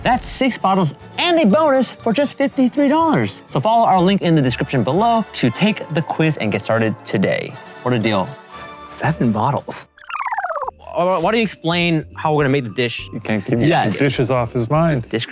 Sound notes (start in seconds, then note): 10.2 film reel rolling; 10.5 bells jingling